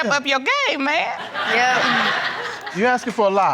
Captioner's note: audience laughing